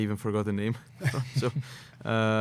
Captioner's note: laughter